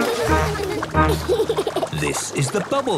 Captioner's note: giggles